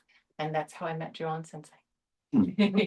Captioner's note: laughter